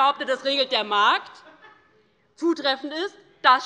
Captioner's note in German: Lachen